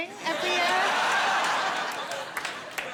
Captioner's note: laughter